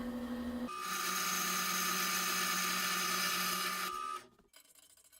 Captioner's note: sound of bandsaw motor starting; sound of bandsaw cutting damasteel